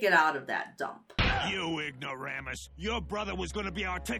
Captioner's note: Stan's body thuds